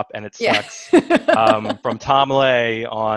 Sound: laughs

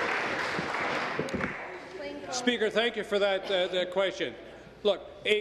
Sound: applause

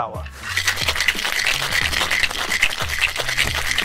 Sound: ice rattling

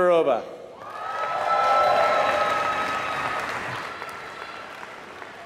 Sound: applause

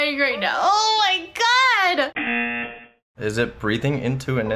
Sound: laughs; buzzer rings

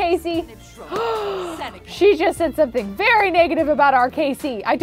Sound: gasps

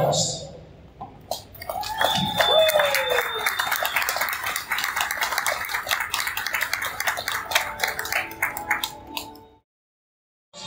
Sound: cheers and applause from the crowd

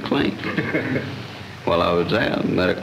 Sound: laughter

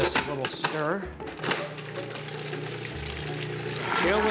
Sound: processor whirring

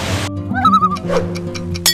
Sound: loon call

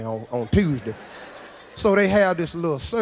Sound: audience laughs

